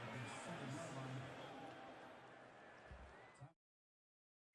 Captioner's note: pa announcement